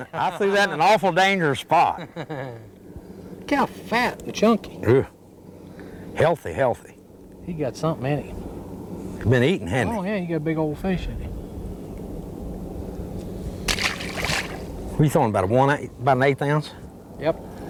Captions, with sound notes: in an awful dangerous spot [Laughter] look how fat and chunky..healthy healthy you got something he has been eating hasn't he..he has a big old fish in him. [Splash] you throwing about an 1/8 oz yep